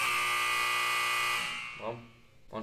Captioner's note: prisoner buzzer